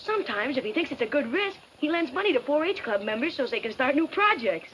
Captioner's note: none